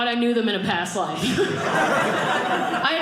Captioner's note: audience laughing